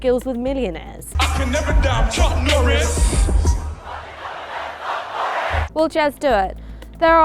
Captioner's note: crowd chants